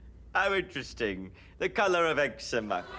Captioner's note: audience laughs